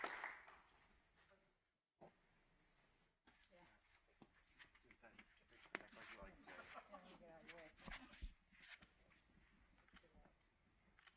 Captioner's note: applause